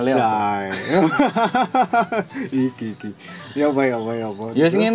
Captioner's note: laughs